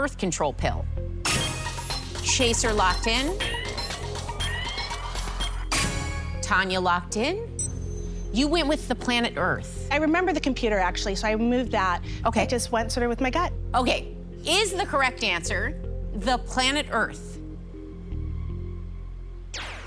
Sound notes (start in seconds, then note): 1.8 chime, ticking; 7.6 chime